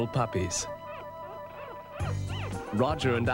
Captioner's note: puppies weeping